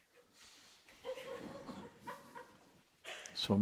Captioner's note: soft laughter